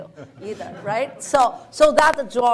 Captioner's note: attendees laughing